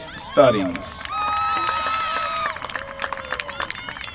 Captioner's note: applause